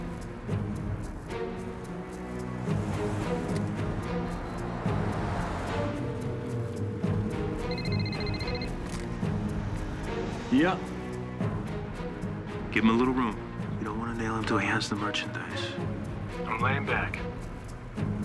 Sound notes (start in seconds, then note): 7.6 phone ringing